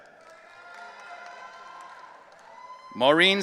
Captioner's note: audience cheering